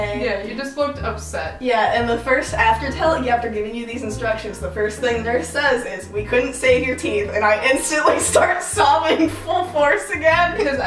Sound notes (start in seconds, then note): none